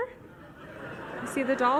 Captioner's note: audience laughs